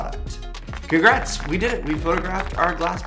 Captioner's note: crowd applauding